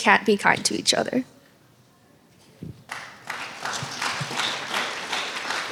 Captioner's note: applause